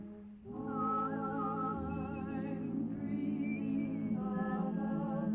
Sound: whistling

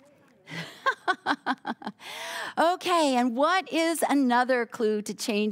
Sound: laughing

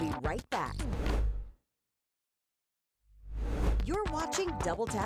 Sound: air whooshing

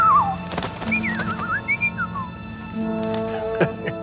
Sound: repairman whistling; bird chirping; repairman chuckling

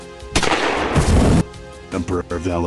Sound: bang!!!; flamethrower noises

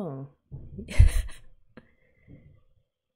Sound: laughs

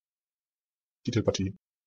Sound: fast Pronunciation

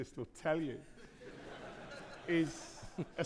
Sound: audience laughing

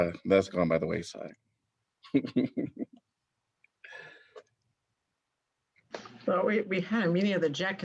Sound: laughter

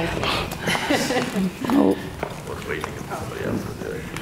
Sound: laughs

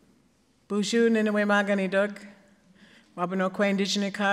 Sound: speaking Ojibwe

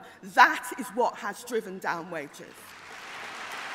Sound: applause

